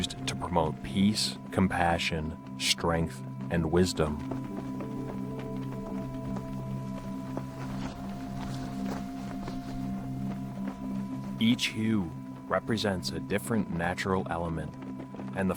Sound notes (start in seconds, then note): 4.6 flags flapping; 4.6 gentle music